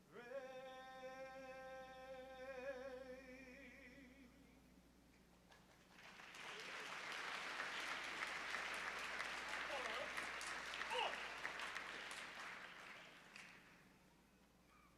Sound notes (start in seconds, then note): 5.5 applause